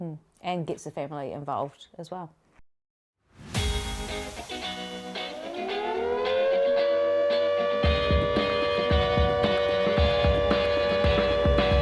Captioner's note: siren wailing